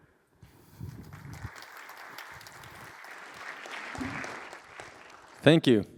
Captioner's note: applause